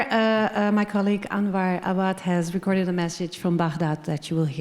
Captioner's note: faintly speaking